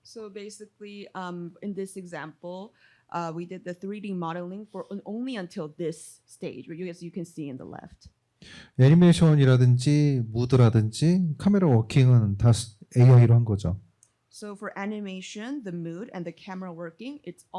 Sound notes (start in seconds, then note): 8.8 speaking korean